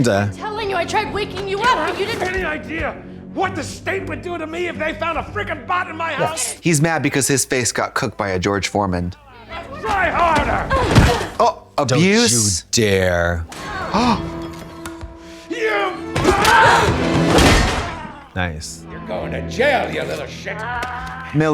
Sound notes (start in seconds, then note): 10.5 groaning; 13.7 Trixie gasps; 16.1 dramatic music; 16.8 metal clanging